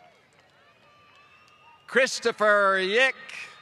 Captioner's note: applause